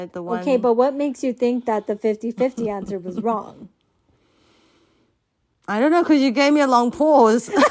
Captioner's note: deep breath; laughter